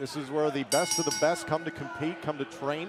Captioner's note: bell ringing